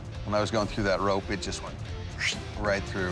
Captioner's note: imitates swishing